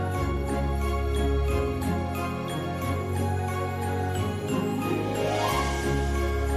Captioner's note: jingling continues